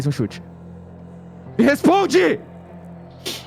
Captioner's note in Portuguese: gritando